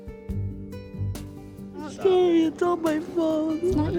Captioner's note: crying